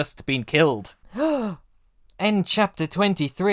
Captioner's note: gasp!